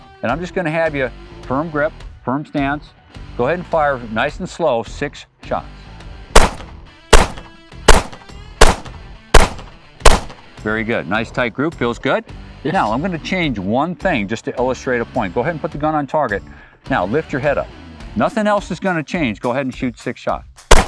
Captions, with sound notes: And I'm just gonna have you, firm grip, firm stance. Go ahead and fire nice and slow six shots. (gun popping) Very good. Nice tight group. Feels good? - Yeah. - Now I'm gonna change one thing, just to illustrate a point. Go ahead and put the gun on target. Now lift your head up. Nothing else is gonna change. Go ahead and shoot six shots.